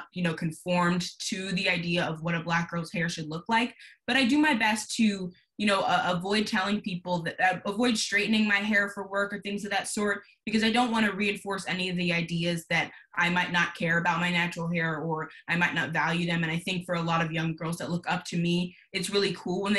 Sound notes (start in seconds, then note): none